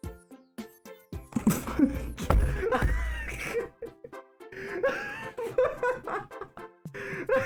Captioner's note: slamming desk/laughing; laughter continues